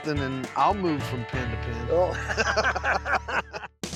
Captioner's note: laughter